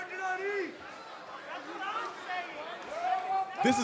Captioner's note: cheers and applause